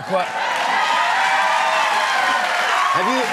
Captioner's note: cheers and applause